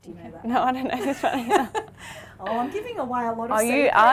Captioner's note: laughs